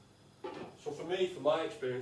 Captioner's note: lid clanging